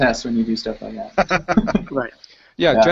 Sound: laughs

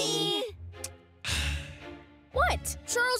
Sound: sighing

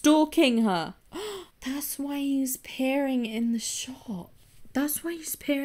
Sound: gasps

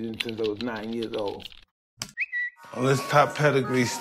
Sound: whistle

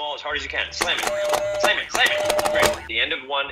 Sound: frenzied beeping

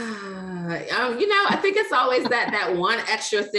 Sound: laughs

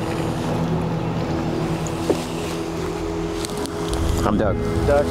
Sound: water lapping

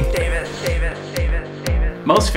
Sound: echo

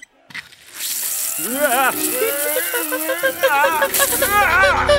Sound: whimpers

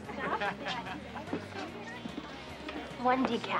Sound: laughter and crowd chatter

